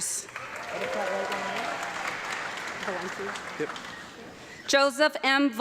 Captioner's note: audience clapping and cheering